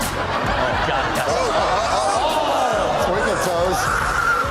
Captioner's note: audience laughs